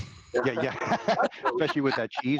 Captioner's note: all laughing